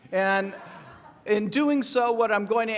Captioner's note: laughing